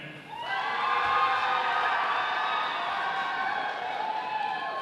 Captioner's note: audience applauding